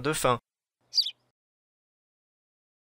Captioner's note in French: chant d’oiseau